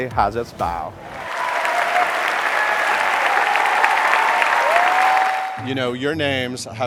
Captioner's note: audience applauding